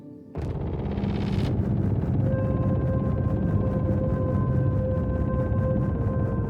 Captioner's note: dramatic music; static buzzing